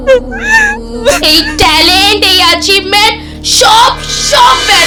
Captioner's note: weeping